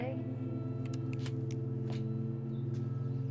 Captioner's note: trigger clicks